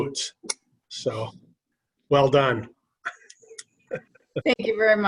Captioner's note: laughter